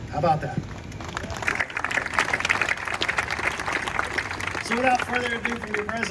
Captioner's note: audience applauding